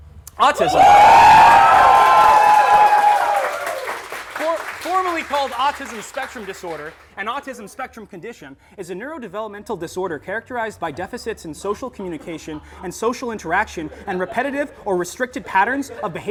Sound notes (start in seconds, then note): 0.6 applause